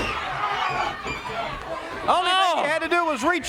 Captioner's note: crowd cheering